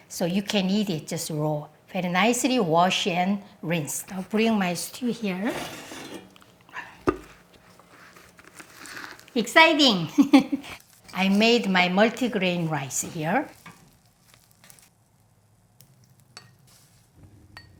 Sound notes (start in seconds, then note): 10.0 laughs